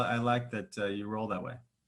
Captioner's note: none